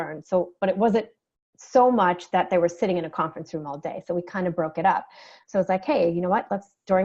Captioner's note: none